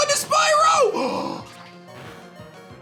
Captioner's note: gasps